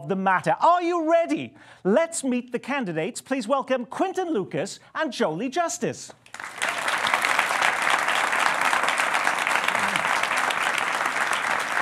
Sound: applause

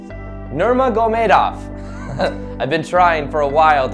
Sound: chuckles

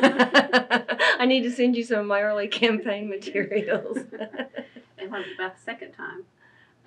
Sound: laughter; laughs

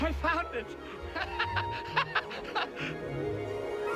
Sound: laughing

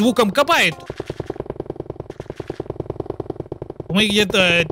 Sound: builder asmr noices

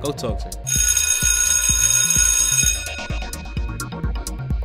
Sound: bell ringing

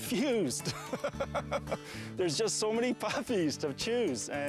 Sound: laughing

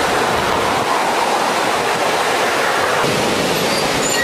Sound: water rushing loudly

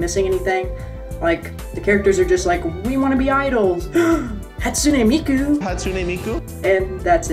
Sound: gasp

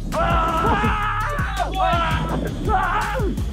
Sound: men yelling

